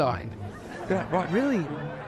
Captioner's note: laughter